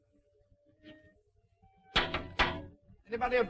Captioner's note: knocking on door